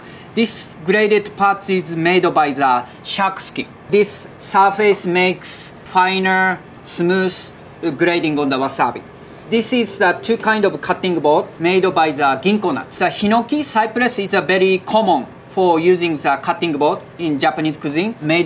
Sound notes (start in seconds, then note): 9.5 text chiming